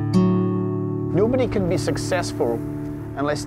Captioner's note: tranquil guitar music; with Scottish accent